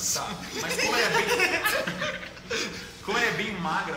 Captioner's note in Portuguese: risos